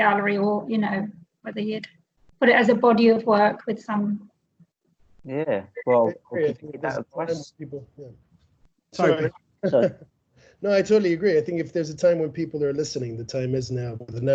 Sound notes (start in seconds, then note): 7.5 audience Muttering